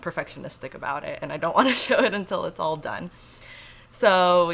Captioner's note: laughs